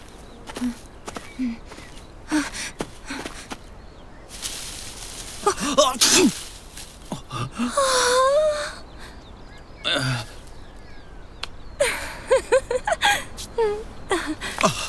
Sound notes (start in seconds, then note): 0.0 footsteps crunching; 4.3 hay rustling; 5.5 man sneezes; 7.0 people murmuring; 11.8 woman giggling